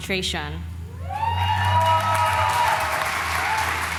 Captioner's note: applause